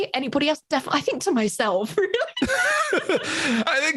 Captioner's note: laughs